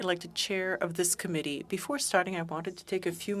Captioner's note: speaking French